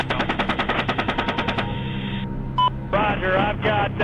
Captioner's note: helicopter guns rattle and burst